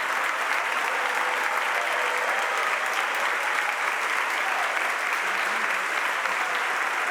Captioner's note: audience applauds and cheers continues